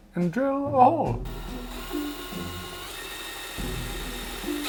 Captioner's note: drill whirring